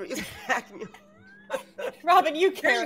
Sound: both laughing

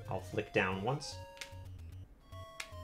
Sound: D-Pad clicks

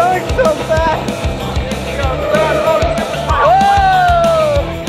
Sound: tires screeching

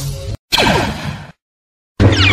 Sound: Ignites Lightsaber; blaster Fire; Lightsaber Deflect

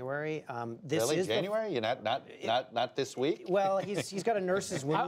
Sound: laughter

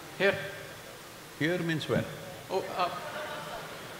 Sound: few laugh

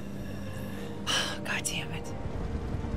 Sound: sigh

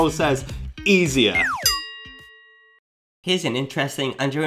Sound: pull whistle sound

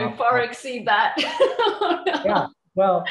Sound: laughs

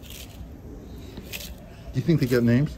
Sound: lettuce crunching

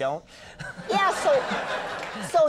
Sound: audience laughing

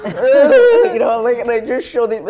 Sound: sobbing noises

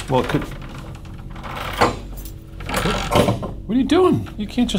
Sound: chain rattling and clanks

